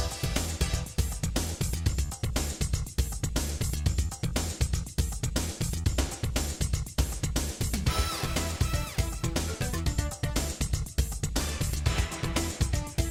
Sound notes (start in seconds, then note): none